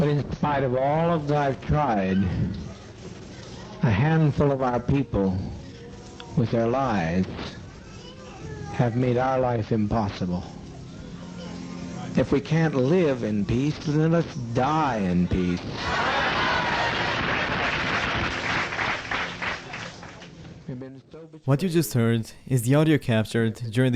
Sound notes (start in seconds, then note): 15.6 crowd clamoring; 17.7 crowd applauding